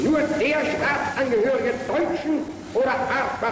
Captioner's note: goering speaking german